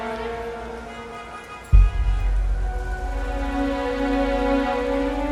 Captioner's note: horns honking